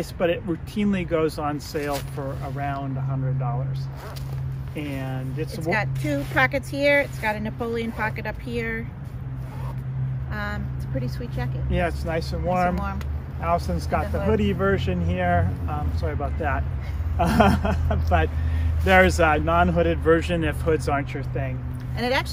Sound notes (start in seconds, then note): 16.8 laughing